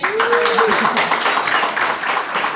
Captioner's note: applause